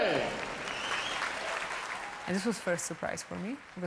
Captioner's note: cheering